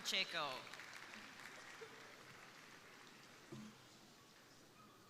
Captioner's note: crowd applauding